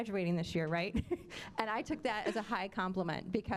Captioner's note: chuckling